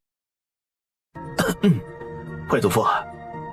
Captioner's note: coughs